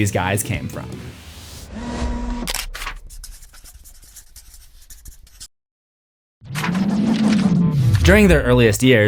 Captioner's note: record transition